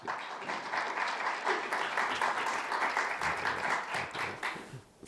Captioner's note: audience applauding